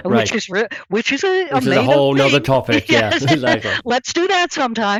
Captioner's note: laughs